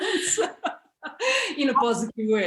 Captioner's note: laughs